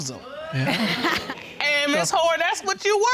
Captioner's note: laughs